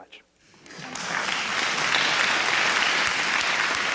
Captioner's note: applause